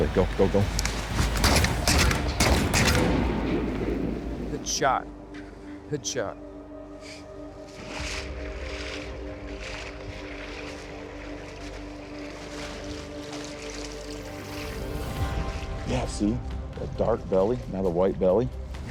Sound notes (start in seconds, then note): 0.8 gunshots echoing; 7.5 water splashing